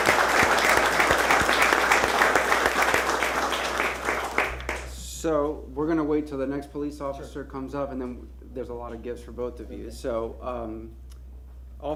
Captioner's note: applause